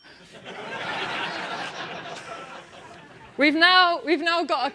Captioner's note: laugh